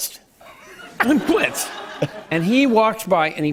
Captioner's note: laughter